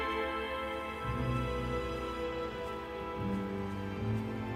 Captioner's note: grass crunching